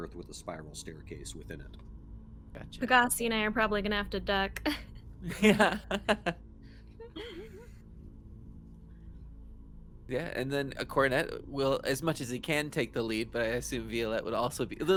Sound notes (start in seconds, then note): 5.2 chuckles; 5.2 laughs